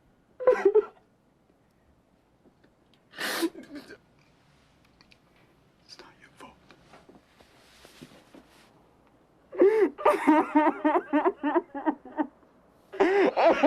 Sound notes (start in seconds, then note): 0.4 crying; 9.7 crying